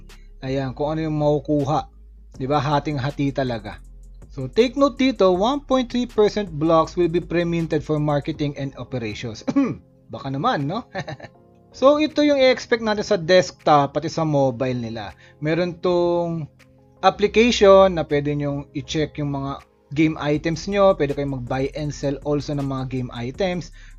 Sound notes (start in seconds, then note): 9.4 cough